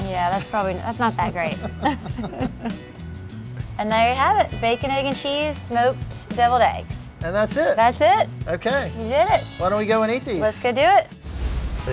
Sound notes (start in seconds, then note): 1.6 laughing; 3.8 upbeat music